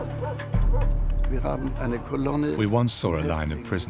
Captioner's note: speaks in foreign language